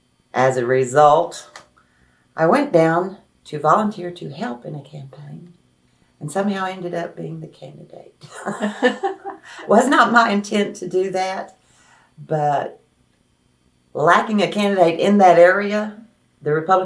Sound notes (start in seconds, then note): 8.3 laughs